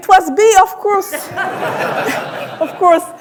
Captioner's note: audience laughing